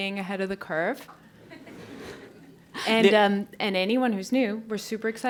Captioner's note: laugh